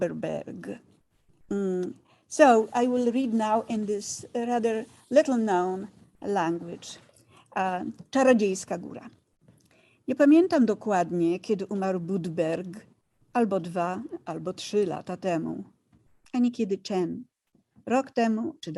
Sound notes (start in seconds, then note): 8.2 speaking in foreign language